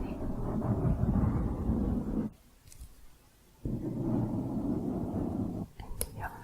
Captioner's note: mic scratching